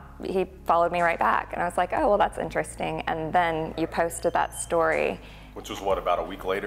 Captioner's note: laugh